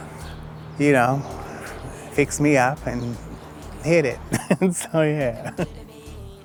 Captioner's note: chuckles